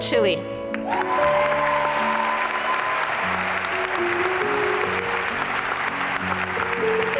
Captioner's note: applause and cheering